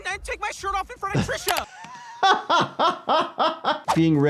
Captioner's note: laughs